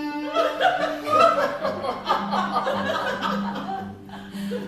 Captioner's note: laughter